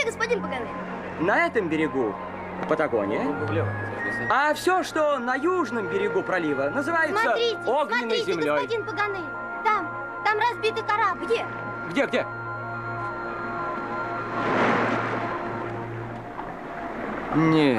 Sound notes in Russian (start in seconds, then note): none